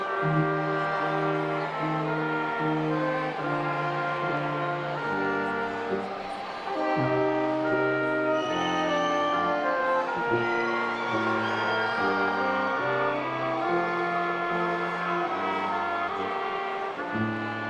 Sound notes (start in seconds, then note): 8.4 attendees cheering